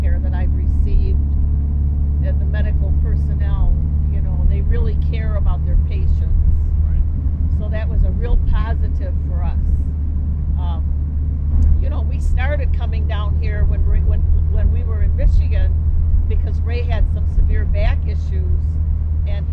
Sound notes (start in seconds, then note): none